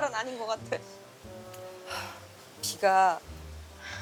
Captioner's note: it starts pouring outside